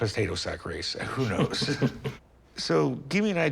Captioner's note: chuckles